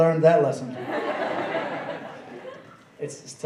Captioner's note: laughing